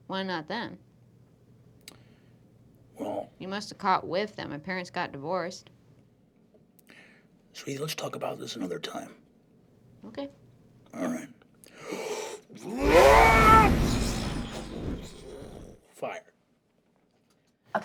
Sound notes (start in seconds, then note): 11.9 roars; 12.8 sound of whooshing; 16.1 normal voice